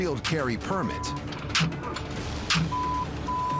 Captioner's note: gun firing